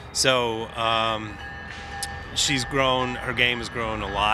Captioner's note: train crossing bell rings